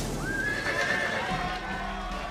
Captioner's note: neighing; cheers and applause